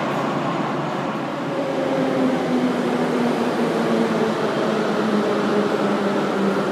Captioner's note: arrival of train at the station